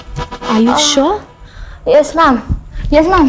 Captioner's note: Moaning